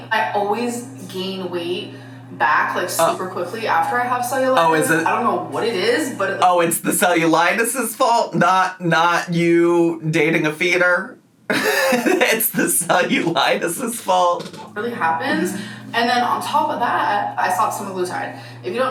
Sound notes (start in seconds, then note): 11.5 laughs